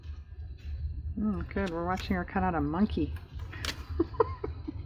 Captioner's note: laughs